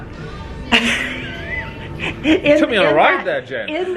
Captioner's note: laughs